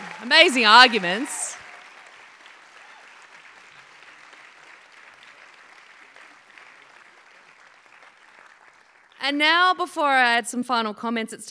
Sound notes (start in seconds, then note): 1.9 applause